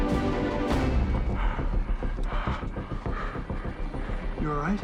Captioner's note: Andy panting